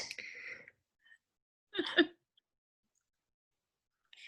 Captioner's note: laughs